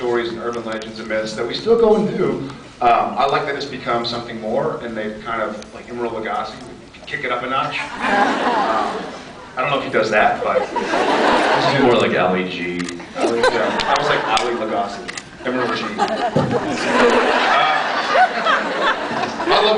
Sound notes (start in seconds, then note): 7.9 laughs; 10.4 laughs; 15.4 laughs; 15.5 scattered laughs; 18.0 laughs